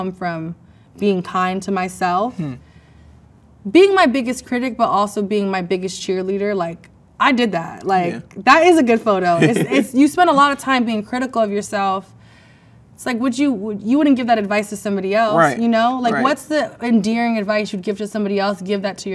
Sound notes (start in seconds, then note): 9.3 man laughs